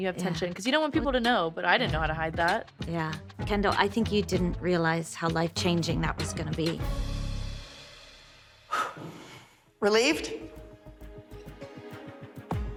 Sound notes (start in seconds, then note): 8.6 exhales; 10.5 soft, tense music playing